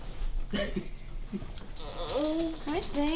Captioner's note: laughs